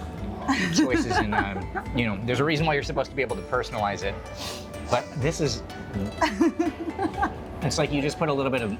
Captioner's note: laughing